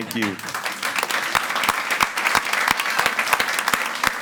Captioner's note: all applauding